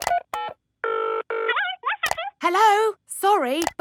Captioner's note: dials phone; on phone